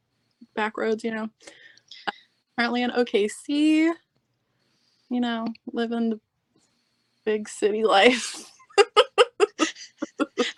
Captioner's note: laughing